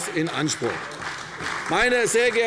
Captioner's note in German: Beifall bei der CDU